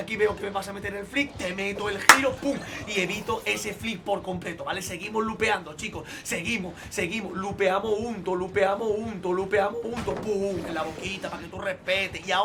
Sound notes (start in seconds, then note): 2.0 claps in Spanish